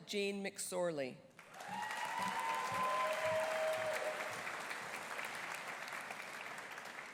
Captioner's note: audience applauding; audience cheering